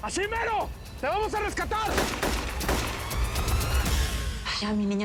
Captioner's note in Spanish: Disparos